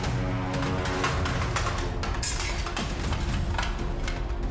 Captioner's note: armor rattling